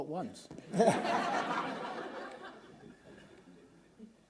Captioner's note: laughter